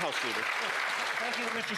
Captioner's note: some Applause